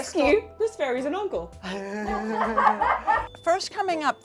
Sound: laughter

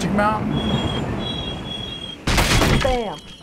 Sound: brakes squeaking; wood splintering

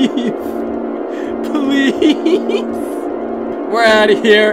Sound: laughing

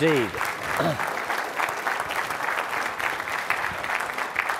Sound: audience clapping

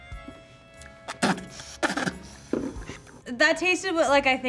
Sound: spits

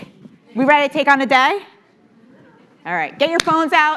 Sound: audience chattering

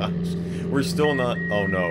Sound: beeping

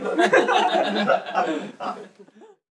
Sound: laughing; sympathetic laughing intensifies

